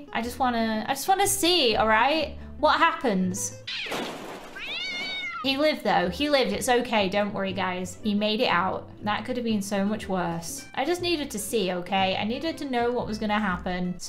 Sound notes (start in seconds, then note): 3.8 banging noises; 4.5 cat meows